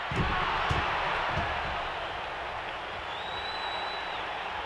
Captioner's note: audience cheering